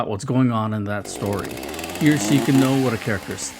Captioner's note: chainsaw sound effect